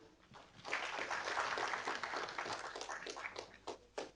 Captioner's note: audience applauding